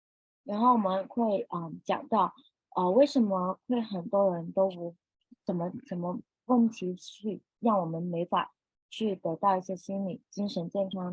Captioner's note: speaking chinese